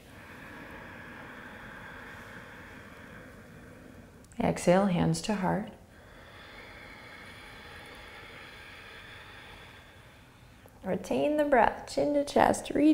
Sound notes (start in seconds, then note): 0.0 inhaling; 5.8 exhaling